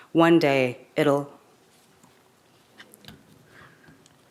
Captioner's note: none